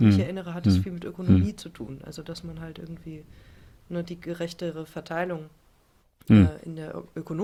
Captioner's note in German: räuspern